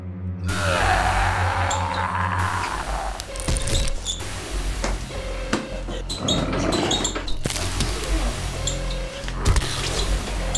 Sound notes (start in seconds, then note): 0.4 zombie yelling; 3.5 bones cracking; 6.1 shoes squeaking